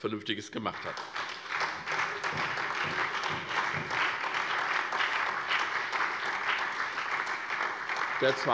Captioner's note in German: Beifall SPD, DIE LINKE und vereinzelt BÜNDNIS 90/DIE GRÜNEN